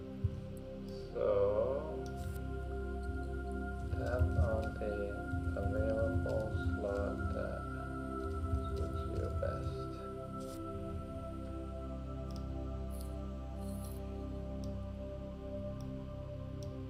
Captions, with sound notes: (gentle music) - Tap on the available slot that suits your best. (gentle music) (mouse clicking)